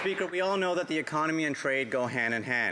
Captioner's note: some Applause